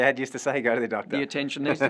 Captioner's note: laugh